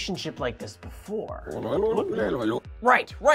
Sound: alien Noises

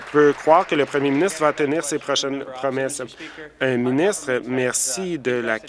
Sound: applause

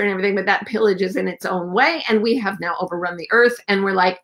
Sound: none

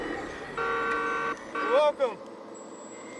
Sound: honking

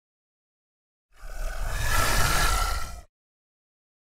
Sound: alligator growl

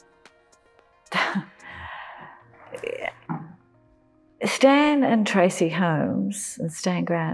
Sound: laughs

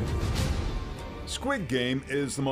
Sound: foreign language

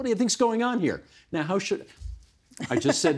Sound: laughing

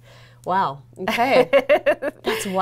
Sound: laughs

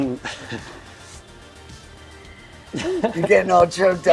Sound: funky music; sighs

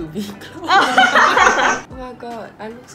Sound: laughs

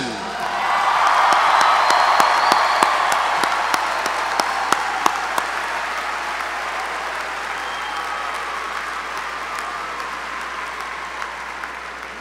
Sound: applause

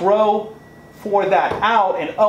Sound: thuds

